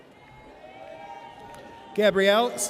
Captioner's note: audience cheers